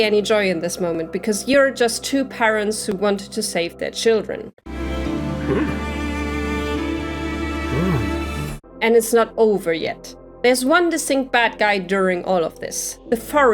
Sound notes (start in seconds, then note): 4.1 surprised sounds from the man; 4.6 emotional Music